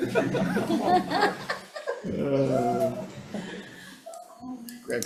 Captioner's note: committee laughs